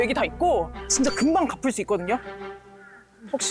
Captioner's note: peeking sound effect